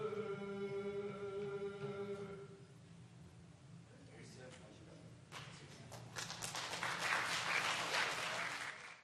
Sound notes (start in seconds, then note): 5.3 applause